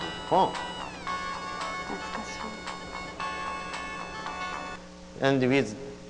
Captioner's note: phone rings